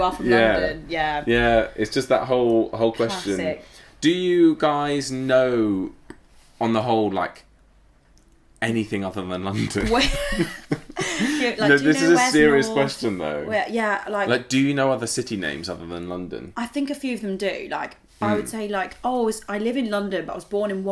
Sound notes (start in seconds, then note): 9.8 laughing